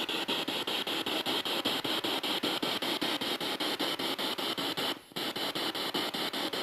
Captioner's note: noise of the spiritbox in the background